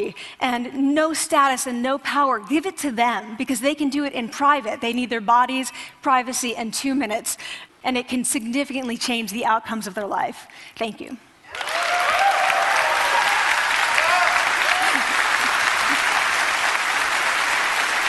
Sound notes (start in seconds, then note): 11.5 applause